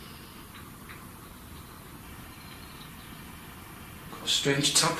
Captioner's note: light tapping